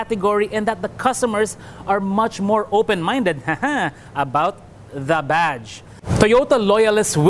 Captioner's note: haha